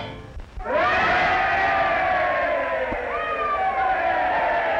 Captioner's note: crowd cheering